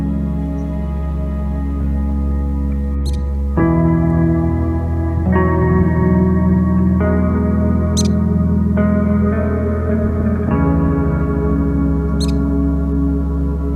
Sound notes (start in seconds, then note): 2.9 chirping